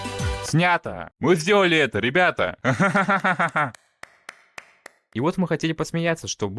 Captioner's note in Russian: смех